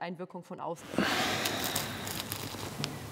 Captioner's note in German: Stöhnen